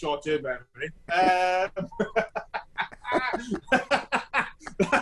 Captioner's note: laughs loudly